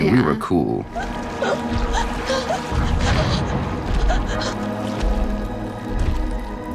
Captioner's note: Eleven gasping and whimpering